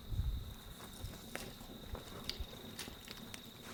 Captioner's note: fire crackling